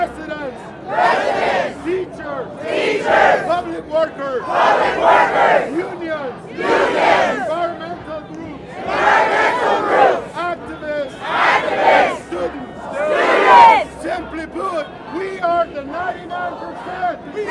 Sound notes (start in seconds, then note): 0.8 crowd; 2.6 crowd; 4.7 crowd; 6.7 crowd; 8.7 crowd; 10.7 crowd; 12.7 crowd